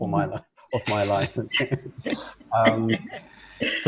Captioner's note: laughs